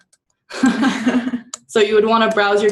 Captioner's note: laughter